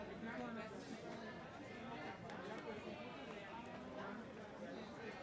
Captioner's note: people chattering